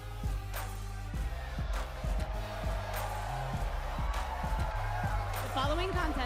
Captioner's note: crowd cheering